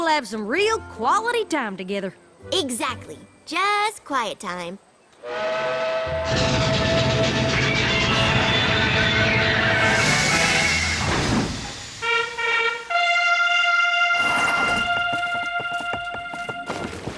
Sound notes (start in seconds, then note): 5.2 train whistle; 11.8 fanfare